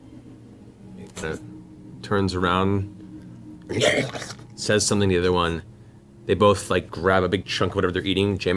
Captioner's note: trollish grunt